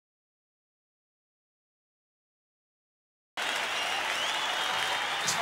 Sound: crowd cheering and applauding

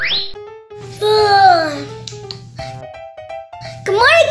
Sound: yawn

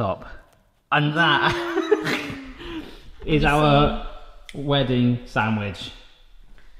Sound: laughing

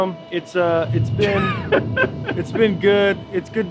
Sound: laughing

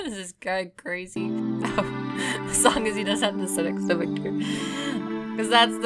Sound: chuckling

